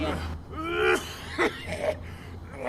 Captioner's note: gross Coughing